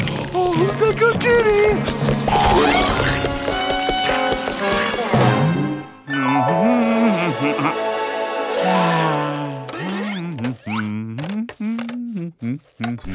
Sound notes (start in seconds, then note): 5.9 humming; 8.4 sighing; 8.6 humming